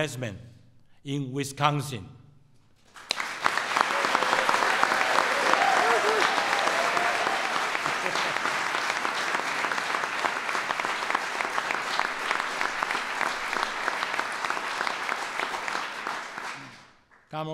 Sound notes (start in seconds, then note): 2.8 applause